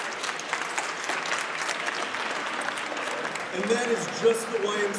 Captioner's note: audience applauds